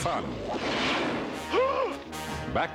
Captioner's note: gasps